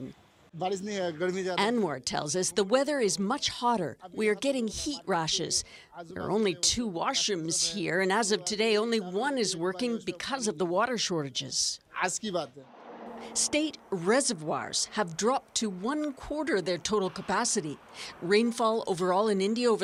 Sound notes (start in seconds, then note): 7.3 foreign language